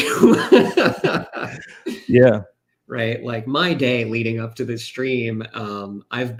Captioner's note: laughs